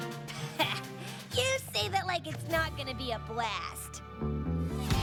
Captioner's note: chuckles